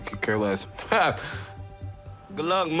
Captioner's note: laughing